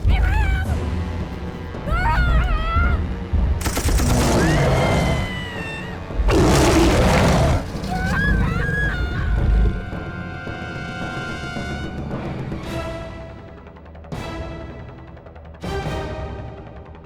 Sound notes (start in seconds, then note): 4.0 screaming; 12.1 dramatic orchestral music